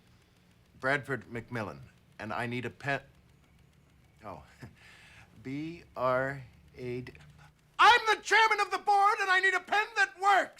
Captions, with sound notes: BRADFORD McMILLAN. AND I NEED A PEN-- OH. B-R-A-D-- [SHOUTING] I'M THE CHAIRMAN OF THE BOARD, AND I NEED A PEN THAT WORKS!